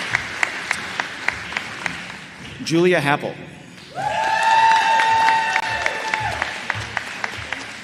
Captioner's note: applause